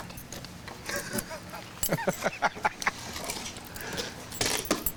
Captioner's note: Robert laughs